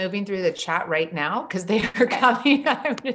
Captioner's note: laughing